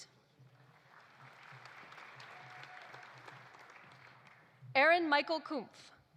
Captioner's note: audience applauding